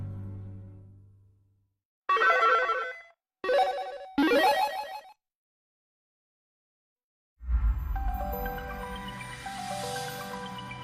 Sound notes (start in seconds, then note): 3.4 8-bit video game sounds